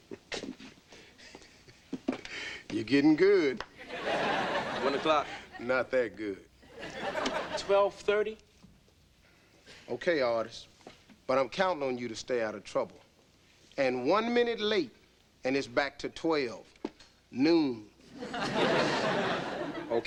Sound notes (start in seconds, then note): 0.4 chuckles; 3.8 audience laughing; 18.1 audience laughing